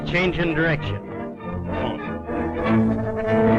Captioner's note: none